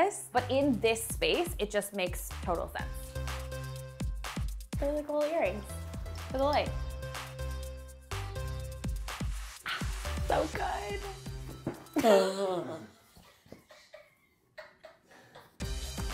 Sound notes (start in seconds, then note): 7.4 light upbeat music; 11.7 carpet flops; 11.9 laughing; 12.0 groans